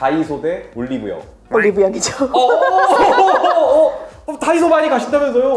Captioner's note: laughs